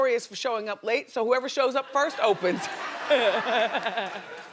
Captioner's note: laughing